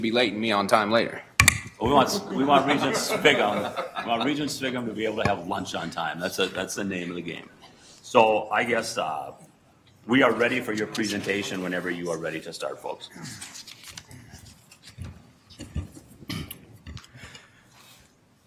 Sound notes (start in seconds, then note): 2.0 audience laughter